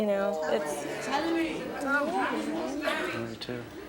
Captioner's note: crowd chattering